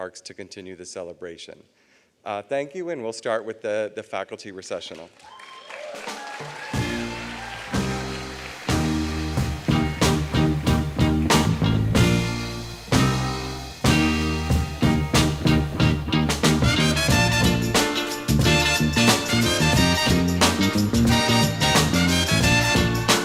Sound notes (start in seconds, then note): 8.4 applause